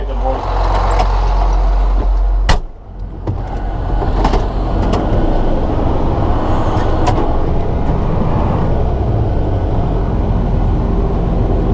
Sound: engine Noise

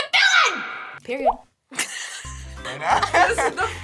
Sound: React laughs

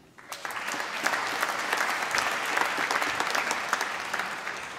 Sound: applause

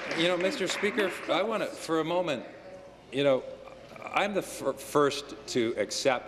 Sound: applause

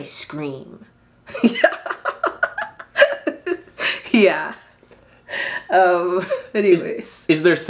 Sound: laughs

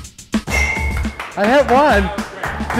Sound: clapping

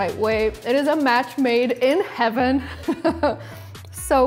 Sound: laughs

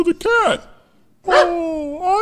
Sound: puppy barks

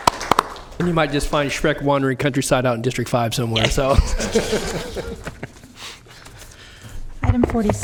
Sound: applause

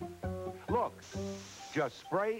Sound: hiss from spray can

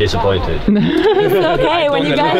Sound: guys laughing

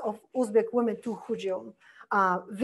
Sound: foreign language

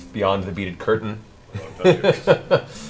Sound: laughs

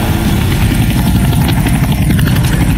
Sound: sound of helicopter flying away

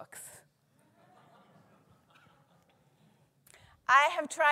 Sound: audience laughing

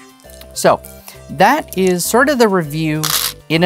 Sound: stones rattling

